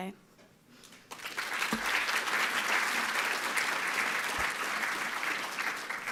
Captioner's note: audience applauding